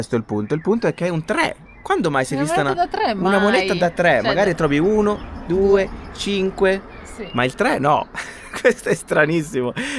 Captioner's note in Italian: risate